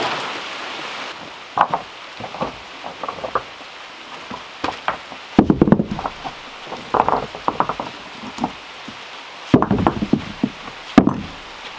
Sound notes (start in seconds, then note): 4.1 rocks scraping and thudding